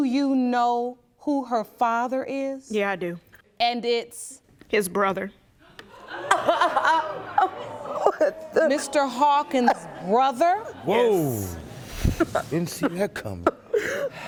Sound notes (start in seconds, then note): 7.0 audience gasps